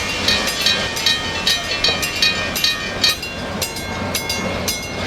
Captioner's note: UP DDA40X horn; CNW railroad crossing-style bell, railroad crossing stops ringing; CNW railroad crossing-style bell